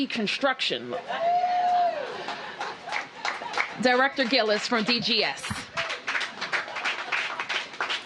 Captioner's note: cheers and applause